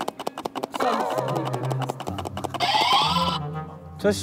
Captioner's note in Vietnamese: Cạch cạch cạch cạch x901